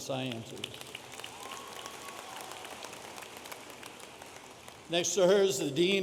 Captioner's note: audience applauding